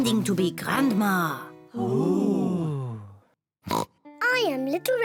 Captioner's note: all gasp; snorts